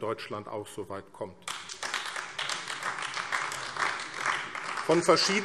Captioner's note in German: Beifall AfD